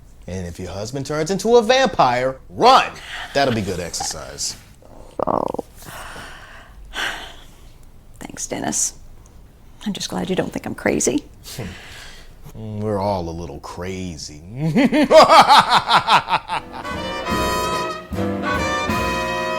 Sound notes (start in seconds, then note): 4.9 she chuckles; 14.8 maniacal laughing; 16.6 jazzy music